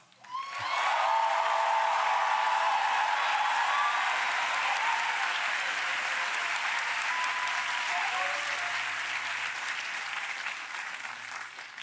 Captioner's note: applause